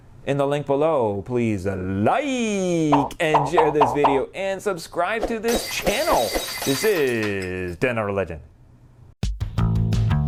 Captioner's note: popping noises; glass breaking